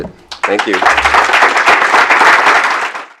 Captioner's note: applause